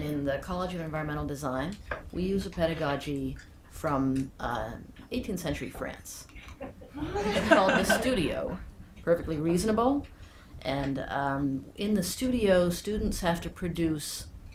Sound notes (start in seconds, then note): 6.7 audience laughing